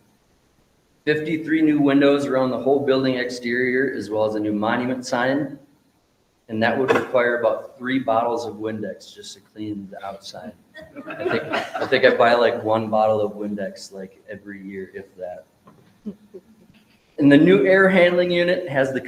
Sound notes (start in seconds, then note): 10.8 members laughing